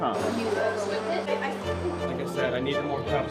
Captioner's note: kitchen chatter